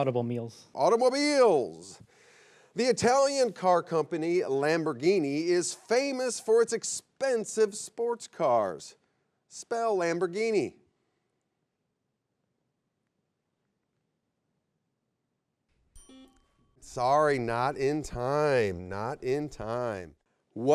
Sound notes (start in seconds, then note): 15.9 bell chimes; 16.0 buzzer beeps